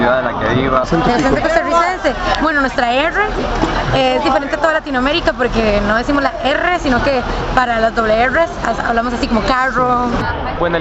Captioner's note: car